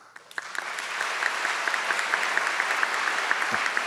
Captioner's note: audience clapping